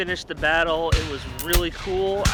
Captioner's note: guns shooting